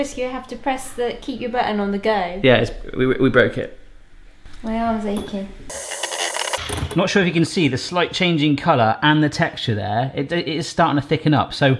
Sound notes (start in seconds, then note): 5.7 blender whirs